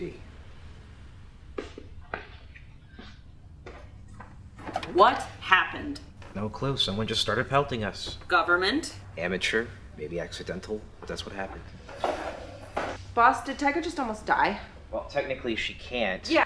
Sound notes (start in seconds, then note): none